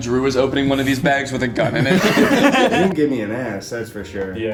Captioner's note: all laughing